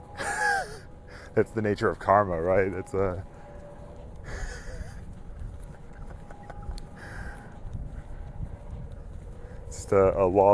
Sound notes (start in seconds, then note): 7.0 laughing